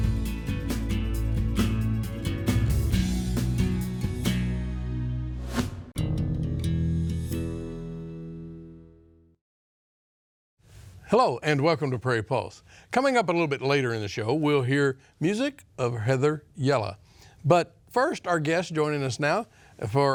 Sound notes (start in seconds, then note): 5.4 air whooshes